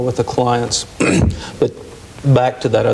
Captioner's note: clears throat